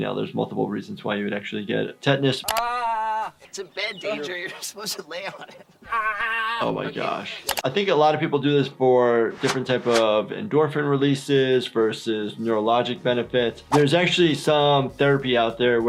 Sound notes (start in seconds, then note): 2.5 Ehren screams in discomfort; 6.0 Ehren squeals